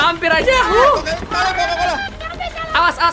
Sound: scream

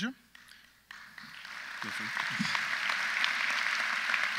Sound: audience applauds

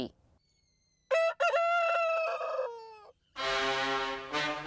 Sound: rooster crows

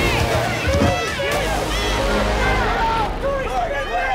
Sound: on-lookers yelling

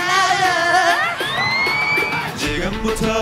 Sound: screaming

